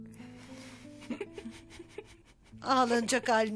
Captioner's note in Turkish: Gülüyor